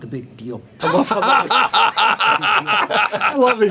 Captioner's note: laughter